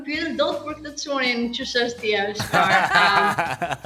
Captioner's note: laughing